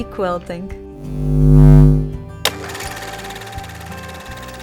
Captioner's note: light buzzing; film camera rolling